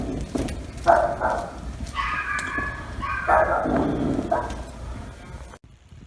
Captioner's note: dogs barking